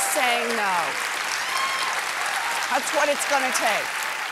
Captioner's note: applause